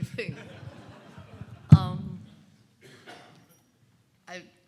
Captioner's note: audience laughing